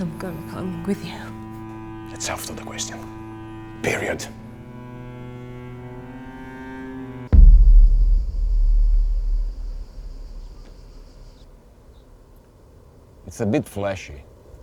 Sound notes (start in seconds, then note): 0.0 dramatic music; 4.6 dramatic music; 7.6 insects chirping